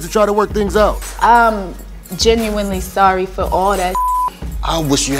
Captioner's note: beep